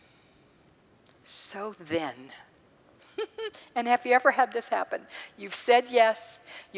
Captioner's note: laughs